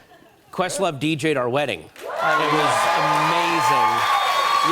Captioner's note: cheers and applause